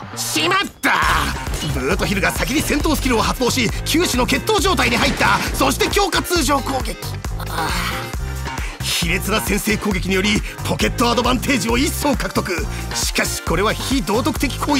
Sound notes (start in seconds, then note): 7.4 sigh